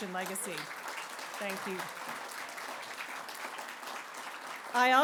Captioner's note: applause